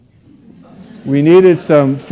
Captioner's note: audience laughs